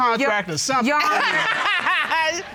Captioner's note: all laugh